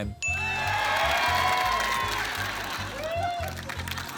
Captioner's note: applause